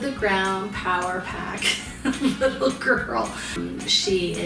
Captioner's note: laughs